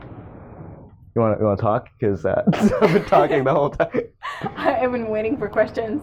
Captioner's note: laughs